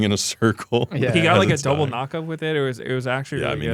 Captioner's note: laughs